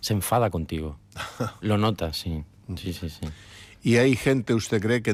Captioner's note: laughs